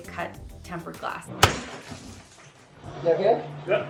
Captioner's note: glass shattering